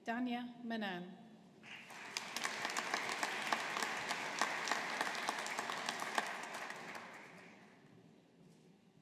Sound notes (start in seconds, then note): 1.6 audience applauding